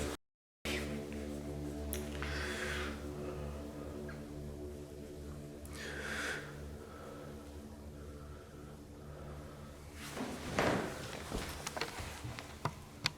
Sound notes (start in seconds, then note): 3.8 heavy breathing